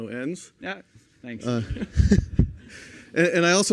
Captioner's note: laughter